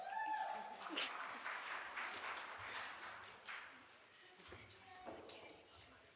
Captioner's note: small group applauds